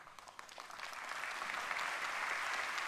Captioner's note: applause